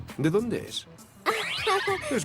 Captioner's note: laughs